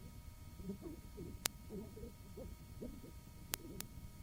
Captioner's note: clicking